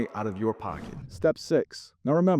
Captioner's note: screen whooshing